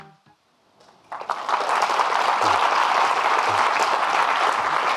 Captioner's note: audience clapping